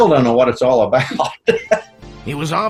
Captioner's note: laughs